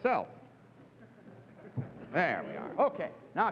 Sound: audience chuckles

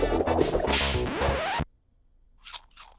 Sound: record needle scratches

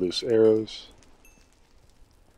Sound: xp pings

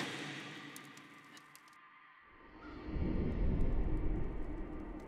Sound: flames crackling

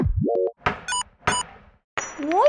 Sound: hammering

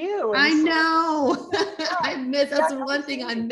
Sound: laughs

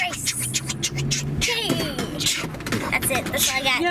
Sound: beat boxing

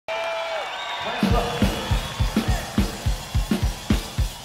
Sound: crowd cheering; upbeat country rock music

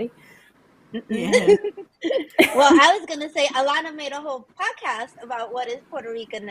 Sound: laughs

